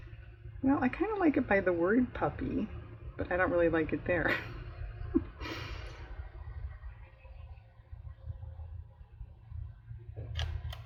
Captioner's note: laughs